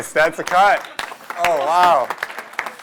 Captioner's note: applause